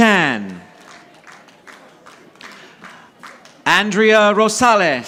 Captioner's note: audience applauding